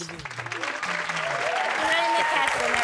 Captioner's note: cheering